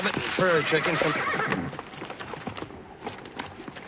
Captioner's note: horse neighing